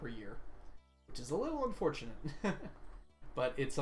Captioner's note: laughs